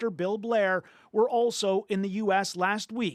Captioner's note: speaking French